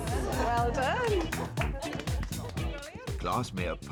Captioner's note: people applauding